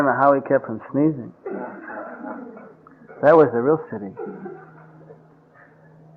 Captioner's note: laughter